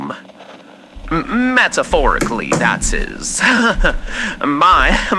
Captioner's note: Alastor closes door fx